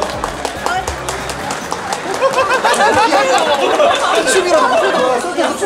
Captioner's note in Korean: 박수 쳐주는 거리의 모든 사람들